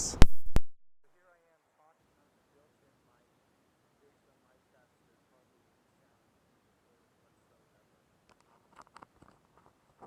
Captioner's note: mic unplugged -- no audio can be heard